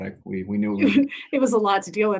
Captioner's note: laughs